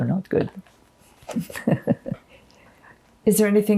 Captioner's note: laughing